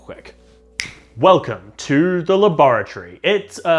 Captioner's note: clicks fingers